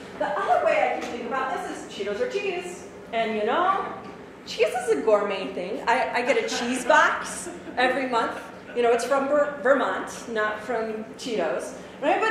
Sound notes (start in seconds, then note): 6.3 audience laughs